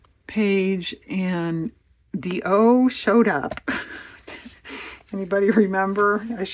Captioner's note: laughs